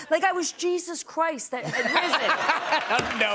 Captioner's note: laughter